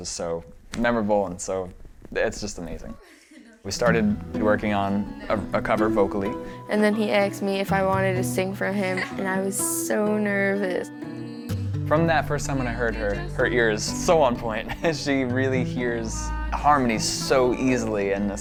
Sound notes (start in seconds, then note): 14.6 laughs